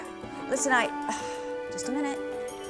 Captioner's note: sighs